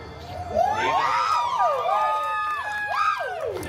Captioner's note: guests cheering